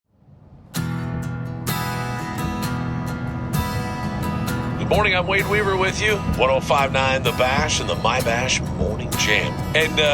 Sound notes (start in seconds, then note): 0.6 slow-paced guitar music; 5.1 radio Announcer